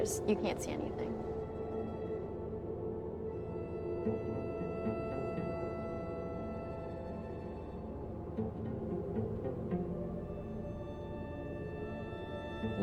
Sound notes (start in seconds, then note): 2.6 airplane hums; 4.3 dramatic music